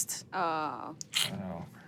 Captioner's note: groans